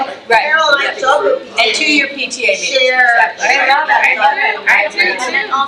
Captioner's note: trustees chattering; faintly speaking